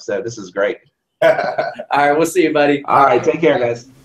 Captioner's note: laugh